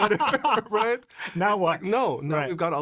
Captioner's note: laughing